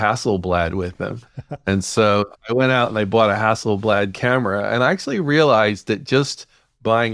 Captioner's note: laughs